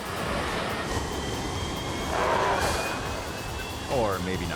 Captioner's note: jet roaring